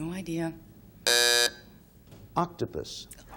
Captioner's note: buzzer sounding off